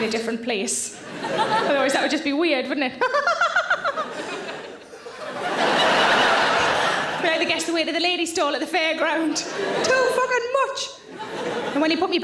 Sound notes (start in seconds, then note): 1.0 audience laughing; 3.0 Sarah laughing; 3.0 audience laughing; 11.0 audience laughing